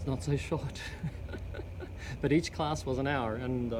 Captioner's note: laughing